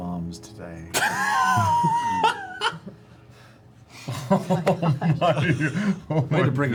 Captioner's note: laughter